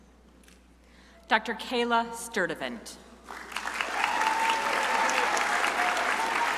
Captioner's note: crowd applauding